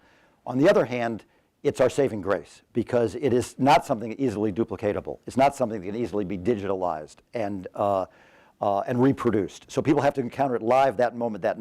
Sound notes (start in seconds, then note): none